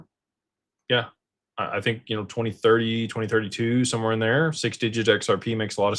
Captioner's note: none